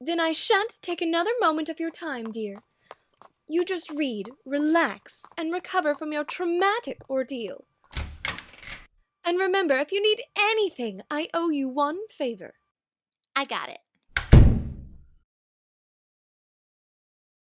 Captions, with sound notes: (Rarity trots) Then I shan't take another moment of your time, dear. You just read, relax, and recover from your traumatic ordeal (Door open) (Door closes)